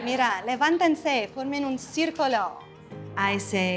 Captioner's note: speaks in Spanish language